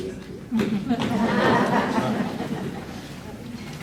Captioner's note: audience laughs